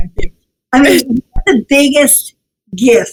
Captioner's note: laughs